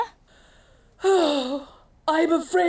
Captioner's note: Roma sighs